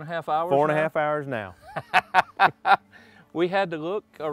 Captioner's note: laughing